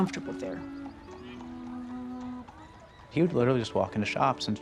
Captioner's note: horse hooves clomping